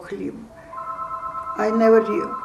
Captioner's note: phone ring